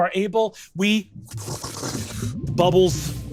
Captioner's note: vocalizes bubbles percolating